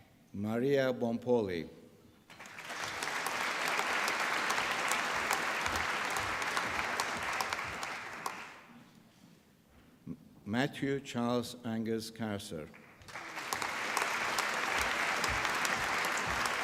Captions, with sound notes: Maria Boumpouli. (APPLAUSE) Matthew Charles Angus Corser. (APPLAUSE)